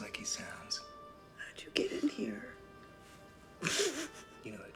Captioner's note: snickers